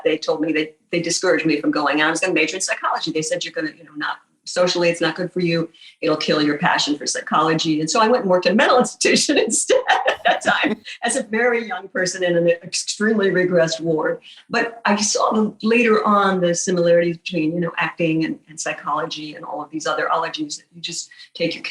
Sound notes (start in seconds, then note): 9.9 laughing